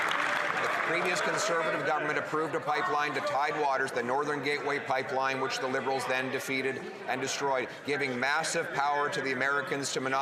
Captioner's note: some Applause